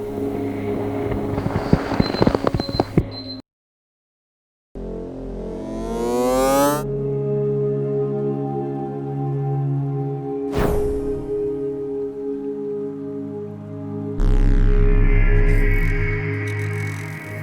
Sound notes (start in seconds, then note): 2.2 beeping; 5.7 winding up noise; 7.8 calm music; 10.6 puff